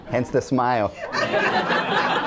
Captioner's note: laughter